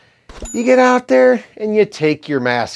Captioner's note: bell dings